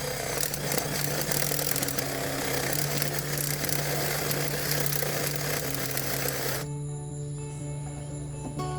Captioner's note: drilling